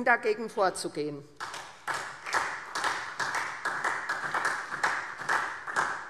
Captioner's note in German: Beifall SPD